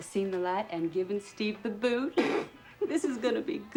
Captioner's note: snorts